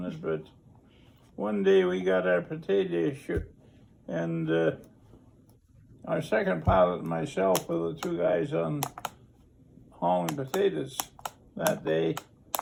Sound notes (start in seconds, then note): none